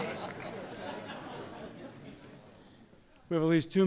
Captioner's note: laughter